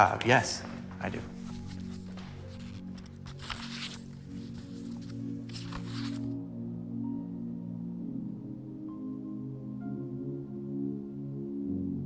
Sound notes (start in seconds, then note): 4.0 paper rustling; 8.0 thoughtful music